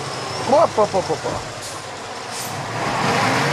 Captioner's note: foreign language